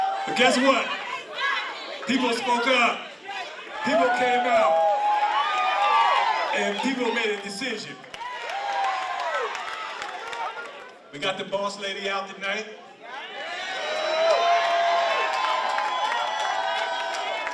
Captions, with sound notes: But guess what? People have spoke up. People came out. (crowd cheering) And people made a decision. (crowd cheering and clapping) We got the boss lady out tonight. (crowd cheering and clapping)